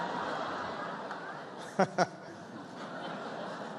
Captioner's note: laughter